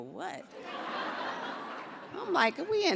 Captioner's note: audience laughs